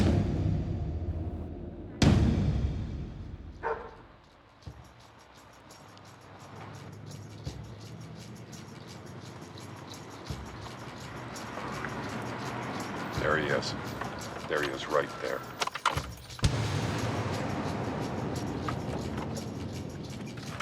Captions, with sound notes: (tense music continues) (dog barking) - There he is. There he is right there. (keys jangling) (tense music continues)